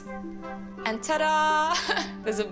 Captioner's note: laughs